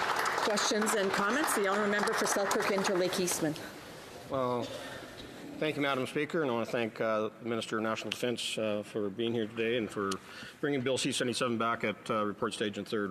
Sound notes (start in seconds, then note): 3.5 applause